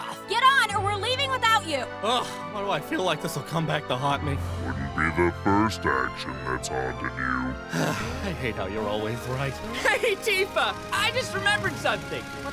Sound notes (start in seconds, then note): 7.7 sigh